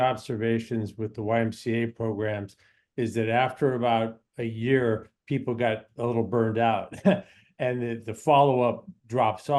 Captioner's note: laughs